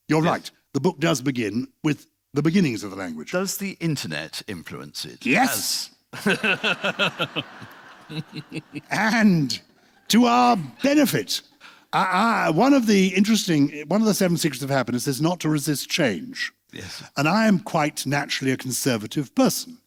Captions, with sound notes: You're right. The book does begin with the beginnings of the language. Does the internet influence it? Yes! (LAUGHTER) And to our benefit, one of the interesting... One of the seven secrets of happiness is not to resist change. Yes. And I am quite naturally a conservative person.